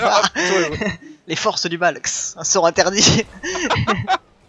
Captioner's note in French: Bruitages